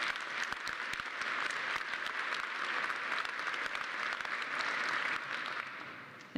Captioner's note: applause